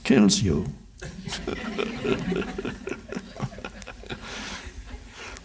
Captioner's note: laughs with crowd